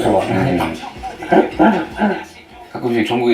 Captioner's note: haha